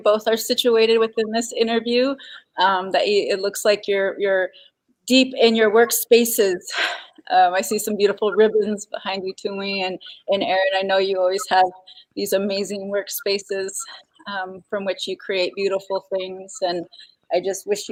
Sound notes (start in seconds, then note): 9.1 speaking Dakota